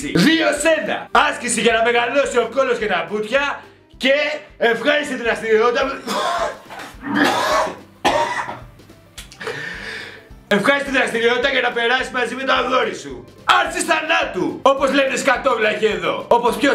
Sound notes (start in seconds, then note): 5.9 coughs